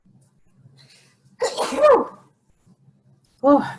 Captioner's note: sneezing